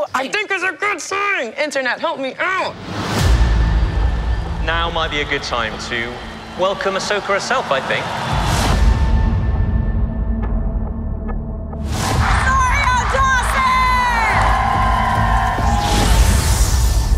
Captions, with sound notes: ROSARIO DAWSON I think it's a good sign. Internet, help me out! ALI PLUMB Now might be a good time to welcome Ahsoka herself, I think. ASH CROSSAN Rosario Dawson! CROWD [Cheering]